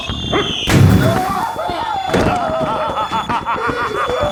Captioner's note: The Mold laughing